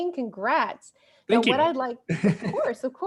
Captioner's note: laughs